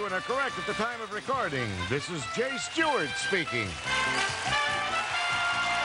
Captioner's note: applause; theme music playing